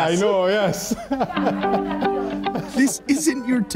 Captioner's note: chuckling